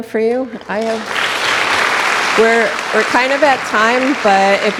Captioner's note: audience applauding